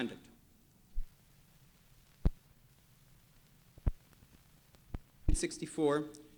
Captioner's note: no audio